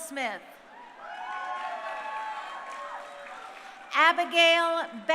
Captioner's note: crowd cheering